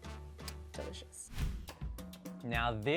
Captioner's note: blowing a kiss